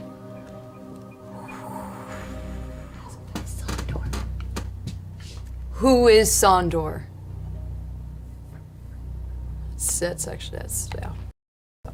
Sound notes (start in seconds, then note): 2.6 whispers